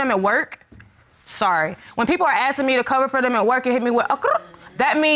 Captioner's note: vocalizes